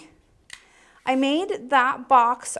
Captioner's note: clicking